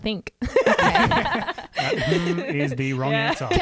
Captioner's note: laughing together